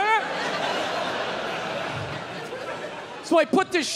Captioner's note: crowd laughs